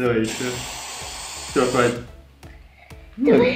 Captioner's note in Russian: Пшшшшш